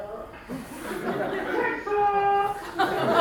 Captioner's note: crowd laughing